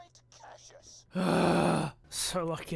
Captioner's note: angry sigh